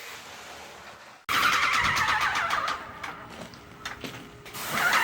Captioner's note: machine runs